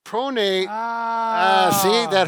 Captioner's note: loud sigh